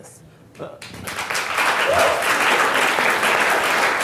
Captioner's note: crowd clapping